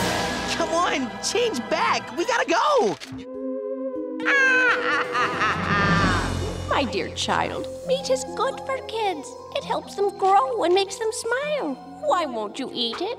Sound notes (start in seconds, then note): 4.2 laughing